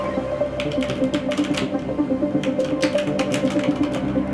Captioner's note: computer chiming; keyboard clacking